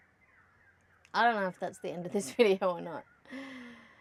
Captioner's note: scoffing